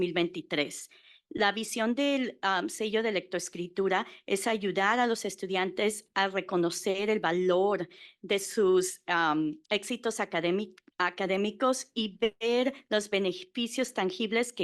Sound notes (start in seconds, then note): 2.0 Spanish